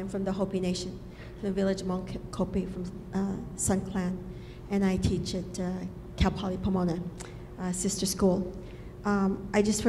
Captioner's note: speaking Foreign Language